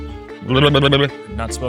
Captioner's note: trilling; playful fast music